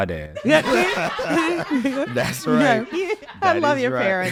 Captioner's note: all laughing